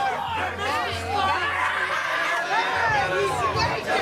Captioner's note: people shouting